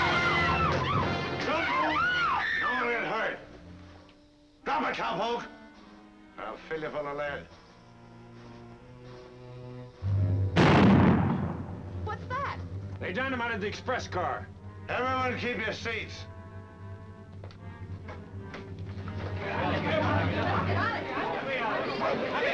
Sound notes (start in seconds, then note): 1.3 screaming; 10.5 dynamite exploding; 18.7 crowd chattering